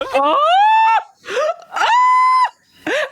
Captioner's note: screaming